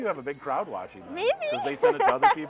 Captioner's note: laughing